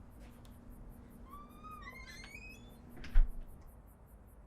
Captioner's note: door closing